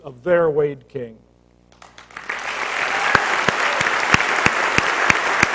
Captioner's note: applause